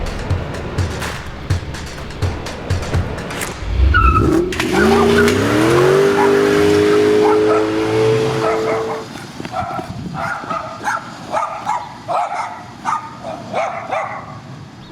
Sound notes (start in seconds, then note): 0.0 dramatic music; 2.8 car engine roaring; 3.1 wheels screeching; 9.2 car engine roaring; 10.1 dog barking